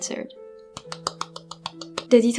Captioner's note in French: clap clap clap